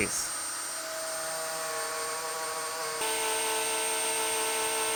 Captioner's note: high-speed machine whirring